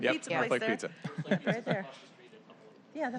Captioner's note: laughter